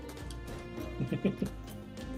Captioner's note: laughs